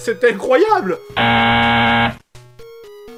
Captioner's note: buuuuzzz